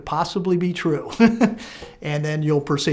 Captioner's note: laughing